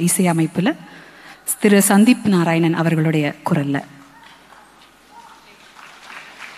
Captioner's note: applause; cheering